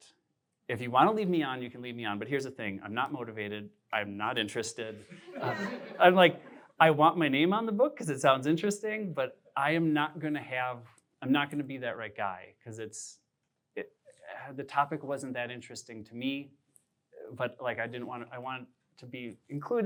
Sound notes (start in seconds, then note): 5.1 laughter